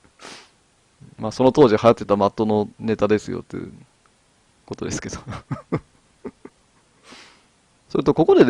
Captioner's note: laughs